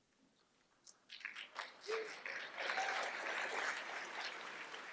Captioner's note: applause